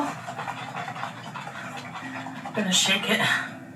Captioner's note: liquid sloshes